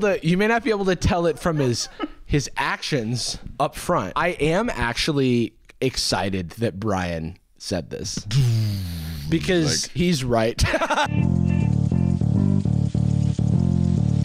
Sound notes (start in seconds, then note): 10.6 laughs; 11.1 tense music